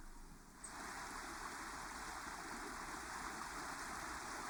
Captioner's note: water flowing